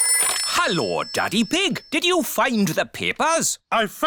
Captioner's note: none